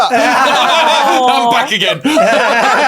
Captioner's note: group laughs